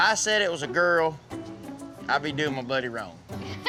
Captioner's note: laughter